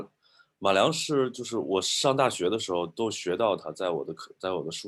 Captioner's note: speaking in foreign language